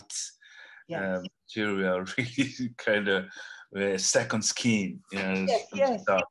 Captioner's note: laughs